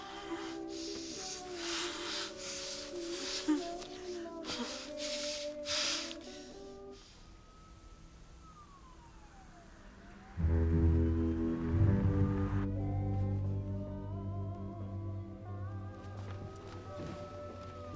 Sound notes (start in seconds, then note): 7.0 distant sirens approaching; 10.3 ominous music